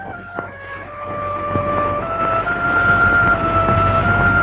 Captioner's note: sirens wailing